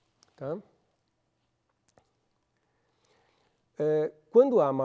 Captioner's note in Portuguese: pausa sonora